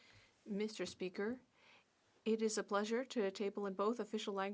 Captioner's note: speaking French